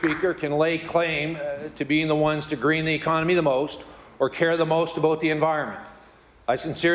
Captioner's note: applause